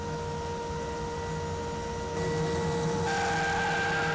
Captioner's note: saw buzzing